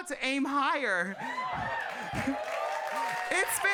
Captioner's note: audience cheering and clapping